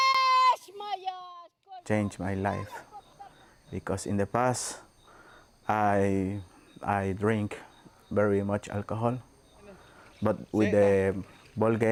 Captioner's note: speaking alternate language